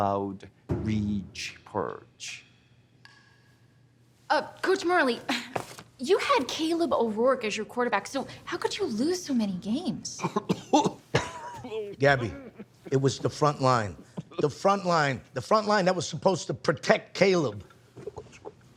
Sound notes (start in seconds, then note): 10.2 coughing